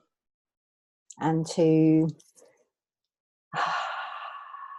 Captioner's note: exhales